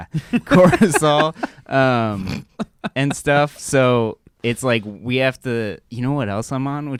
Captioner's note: laughs; chuckles; snorts